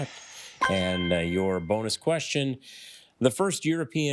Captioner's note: triumphant chime